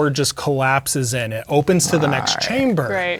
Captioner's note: grumbling